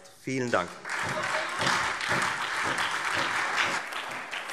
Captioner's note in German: Beifall Freie Demokraten und SPD